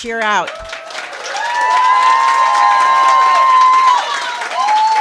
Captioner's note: cheers and applause